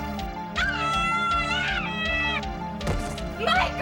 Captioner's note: screaming